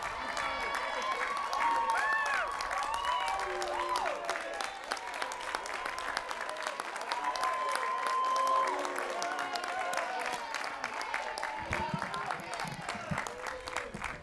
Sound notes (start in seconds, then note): 2.4 applause